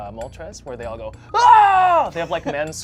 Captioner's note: screams